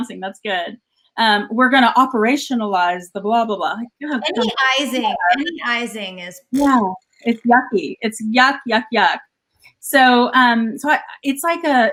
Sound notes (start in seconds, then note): 6.4 blows raspberry